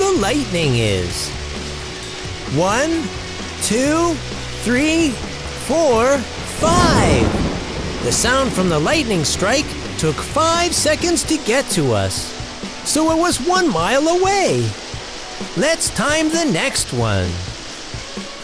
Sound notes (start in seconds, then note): 6.7 sound of thunder